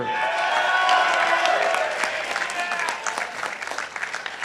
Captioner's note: participants applauding